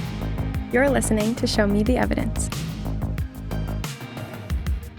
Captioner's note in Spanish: habla en inglés